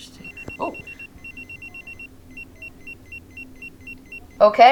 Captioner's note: pager beeps